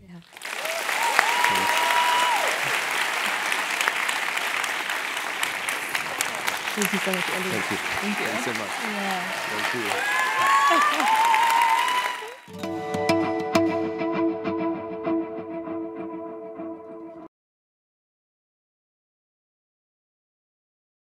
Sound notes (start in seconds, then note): 0.2 applause; 10.3 laugh; 10.4 applause